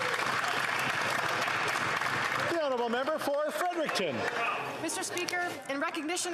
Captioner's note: some Applause